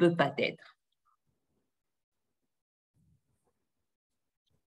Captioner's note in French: silence